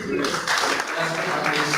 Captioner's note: clapping